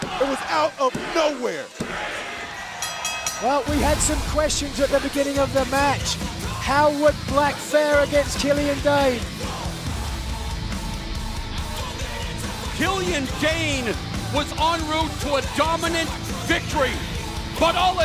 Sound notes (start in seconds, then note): 2.7 bell ringing